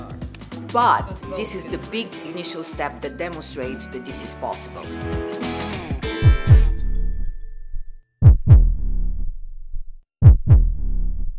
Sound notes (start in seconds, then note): 6.2 heart beat